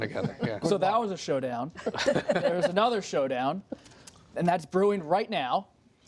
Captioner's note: laughter